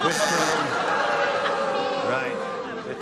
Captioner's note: buzzing